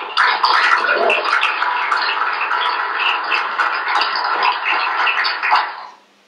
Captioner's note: applause